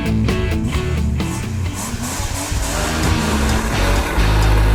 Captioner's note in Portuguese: barulho de motor acelerando; música agitada de fundo